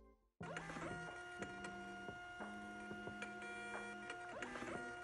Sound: printer noises

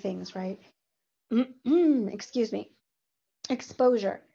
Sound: clears throat

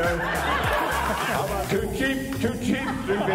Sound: crowd laughs

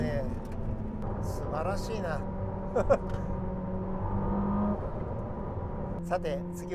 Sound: laughs

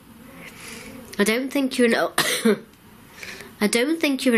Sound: coughs

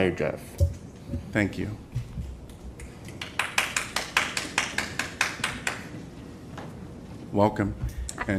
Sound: applause

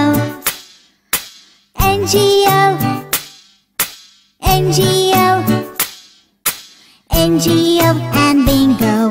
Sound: clap

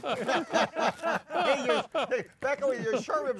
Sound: laughing

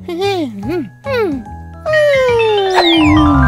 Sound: yawns; bells chiming

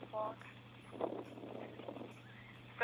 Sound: wind blowing, dog panting

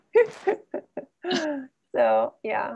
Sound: laughs

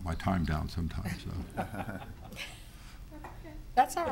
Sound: laughing

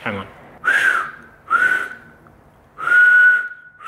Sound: whistles

